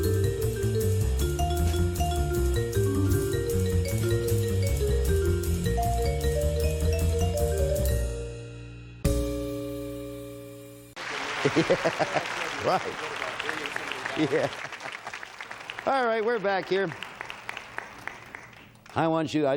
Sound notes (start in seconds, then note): 11.2 laughing